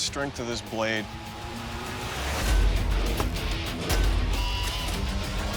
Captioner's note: chopping